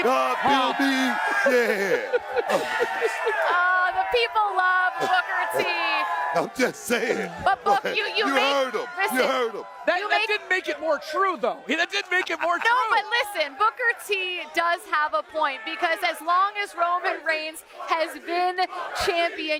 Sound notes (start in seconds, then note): 0.4 applause; 4.5 laughter